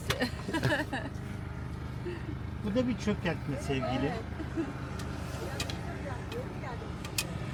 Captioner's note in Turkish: kahkaha